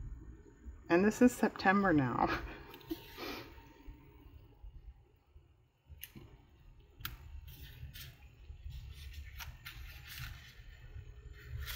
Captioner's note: laughs